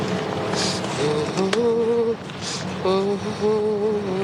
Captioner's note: humming